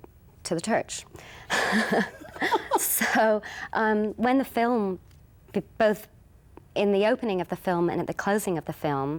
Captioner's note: both laughing